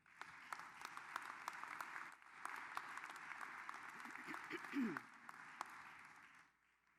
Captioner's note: applause